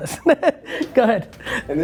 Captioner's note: laughing